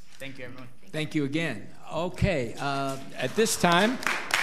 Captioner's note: all applauding